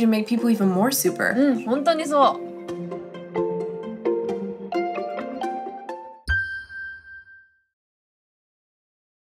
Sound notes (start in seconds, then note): 2.7 upbeat music; 6.2 high pitched tone